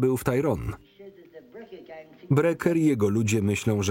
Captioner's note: none